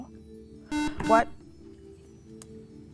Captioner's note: beeping